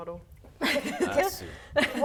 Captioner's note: laughing